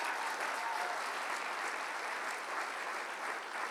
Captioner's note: applause